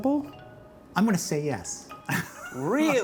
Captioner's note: laughing